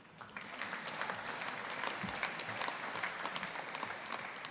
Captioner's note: audience applauding